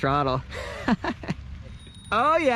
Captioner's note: laughs